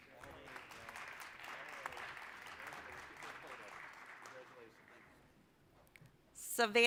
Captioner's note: applause